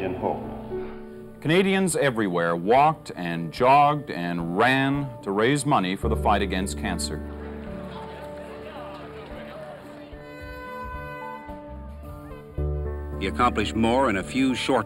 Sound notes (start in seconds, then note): 12.0 horn blares